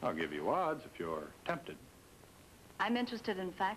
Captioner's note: none